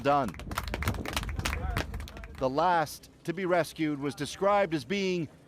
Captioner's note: applause